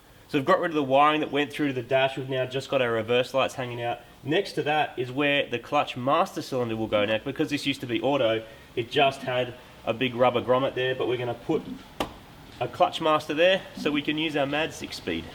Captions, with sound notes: So, we got rid of the wiring that went through to the dash. We now just got our reverse lights hanging out. Next to that, is where the clutch master cylinder will go. Now, because this used to be auto, it just had a big rubber grommet there. But, we're gonna put (smacks) a clutch master there so we can use our mad 6-Speed.